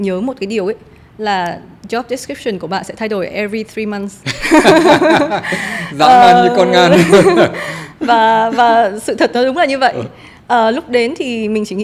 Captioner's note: laugh